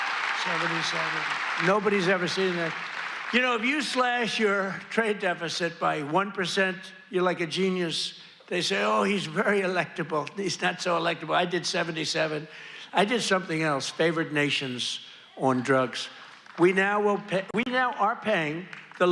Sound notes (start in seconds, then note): 2.3 applause